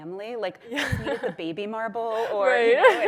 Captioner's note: laughs